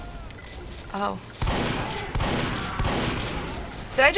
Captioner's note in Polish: strzały